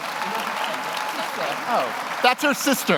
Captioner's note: audience applauds